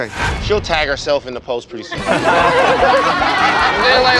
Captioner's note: laughter